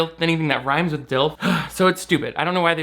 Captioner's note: grunts